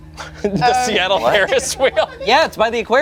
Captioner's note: group laughs